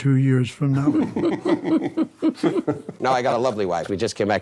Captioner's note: all laugh